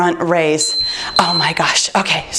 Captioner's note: beeping